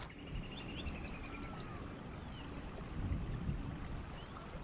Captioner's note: birds chirping